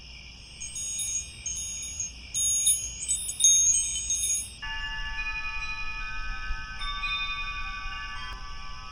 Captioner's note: crickets, wind chimes